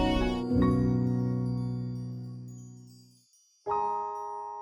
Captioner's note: chimes tinkling